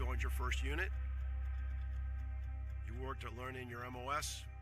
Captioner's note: none